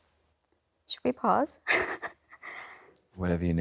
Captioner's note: sobs